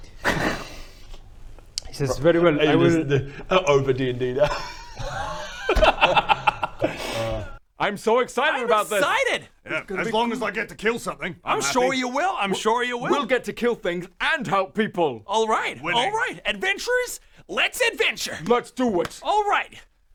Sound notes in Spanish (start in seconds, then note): 0.2 risas burlonas; 4.3 risas